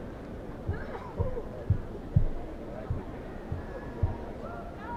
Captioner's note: crowd murd murmurs